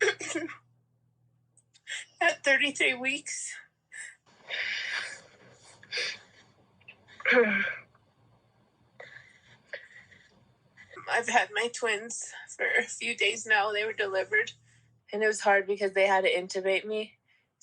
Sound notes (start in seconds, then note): 0.0 sniffles; 0.0 voice breaking; 4.2 exhales; 4.3 clears throat; 4.3 sniffles